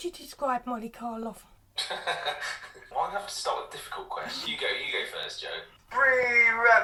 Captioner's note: laughter